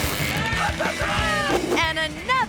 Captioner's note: bikes revving; shouting triumphantly